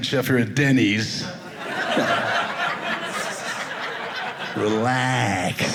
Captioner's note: audience laughing